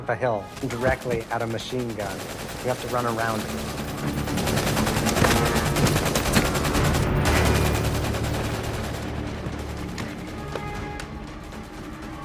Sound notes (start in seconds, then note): 4.4 machine gun firing; 4.4 ominous music